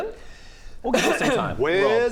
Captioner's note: cough cough